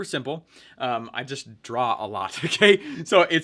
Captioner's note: laughing